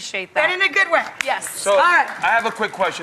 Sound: hands slap

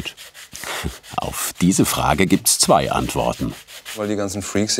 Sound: laughing

